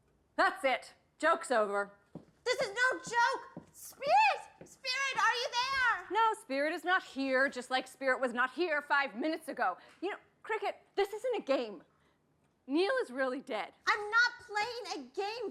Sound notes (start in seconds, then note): none